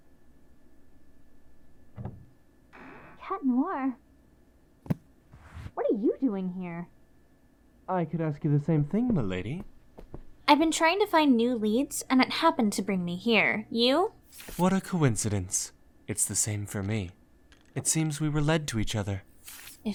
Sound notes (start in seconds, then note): 2.0 door opens